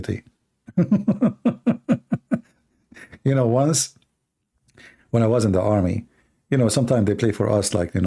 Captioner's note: Ketawa